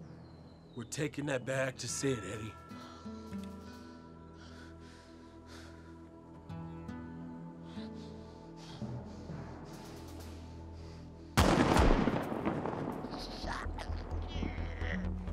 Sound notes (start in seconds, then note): 11.4 gunshot; 13.4 groaning